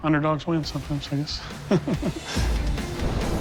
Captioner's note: laughs